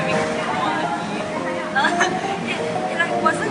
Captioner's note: laughs at her subtly put innuendo